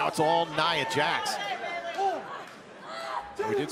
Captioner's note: crowd cheering